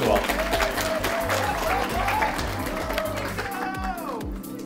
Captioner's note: audience clapping